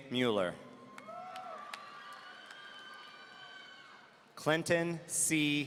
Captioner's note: audience cheering